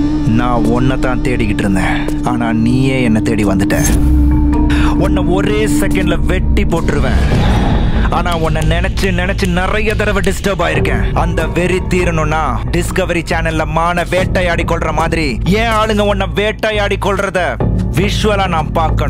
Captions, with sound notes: I was searching for you. But, you have come in search of me. I can chop you into pieces just like that! But you have disturbed me a lot. (Snaps finger) For my anger to subside, my men must hunt you down like a tiger hunts its prey.